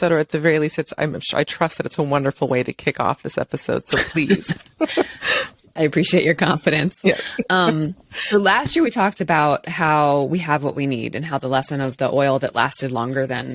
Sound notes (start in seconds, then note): 3.9 both chuckle